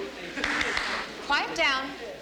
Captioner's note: clapping